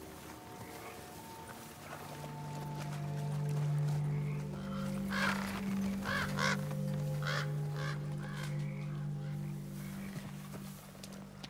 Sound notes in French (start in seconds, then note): 4.0 Corbeau croassant